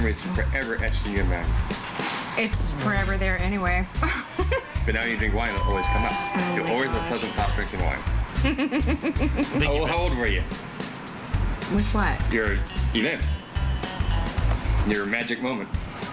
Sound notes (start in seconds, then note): 8.4 laughing